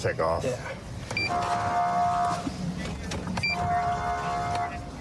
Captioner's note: horn blaring